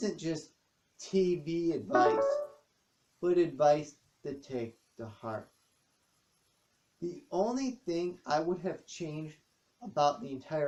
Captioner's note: ping of Kindle